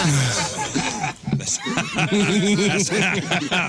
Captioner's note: laughing